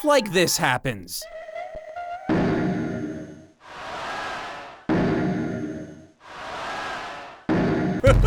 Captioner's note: eerie noise, bang, wheeze, bang, wheeze, bang